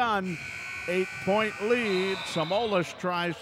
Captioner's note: buzzer buzzes